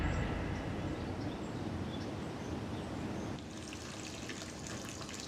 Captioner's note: birds chirping